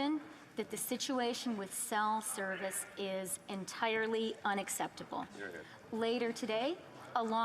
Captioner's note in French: voix de l'interprète